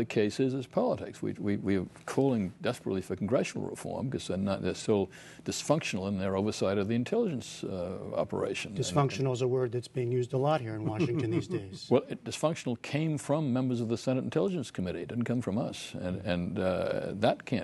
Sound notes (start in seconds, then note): 10.9 laughter